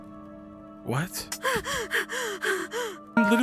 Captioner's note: pants